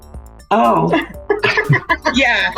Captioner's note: laughs